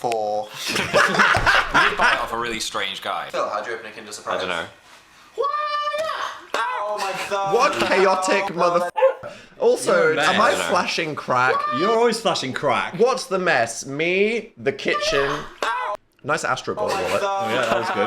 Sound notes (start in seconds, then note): 0.6 all laugh; 8.9 dog barks